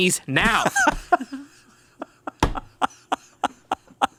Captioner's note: laughs